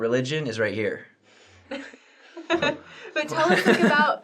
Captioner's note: laughter